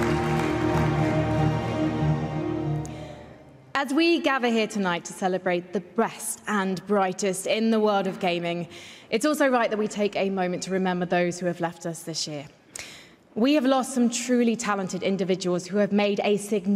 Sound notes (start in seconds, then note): 0.0 applause